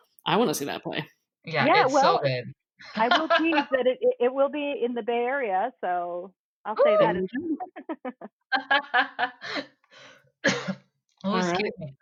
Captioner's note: laughter